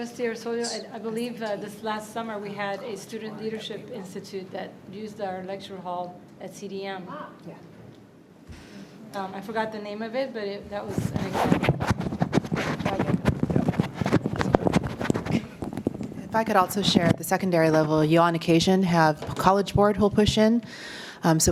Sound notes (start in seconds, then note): 13.1 mic buffeting